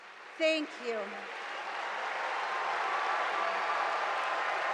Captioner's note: audience applauding